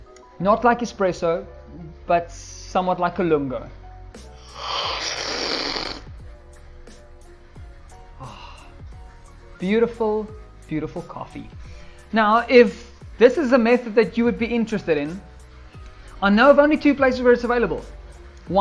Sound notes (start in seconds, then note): 4.4 slurping